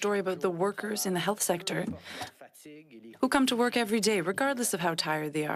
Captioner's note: speaking French